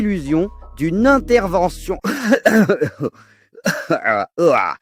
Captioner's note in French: tousse